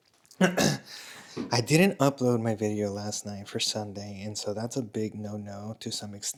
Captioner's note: clears throat